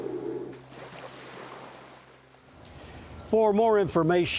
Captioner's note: whale calling; water lapping